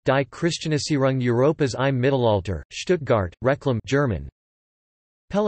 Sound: German

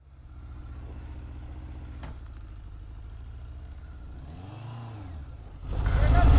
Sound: engine idleing

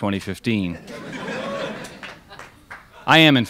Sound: crowd laughs

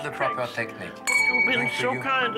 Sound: crystal rings

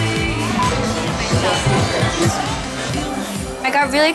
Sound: beep

